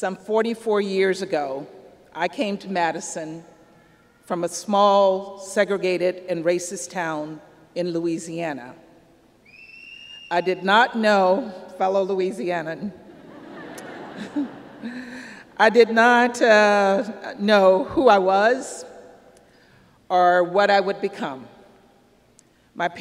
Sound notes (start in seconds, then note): 9.4 whistle from audience; 13.0 laughter